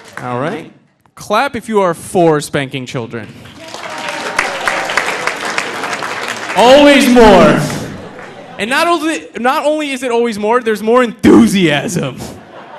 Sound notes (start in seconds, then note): 3.4 audience applauding; 12.0 audience laughing